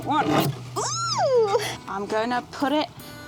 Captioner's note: squeals